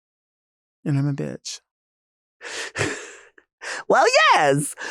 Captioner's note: Nymphia chuckling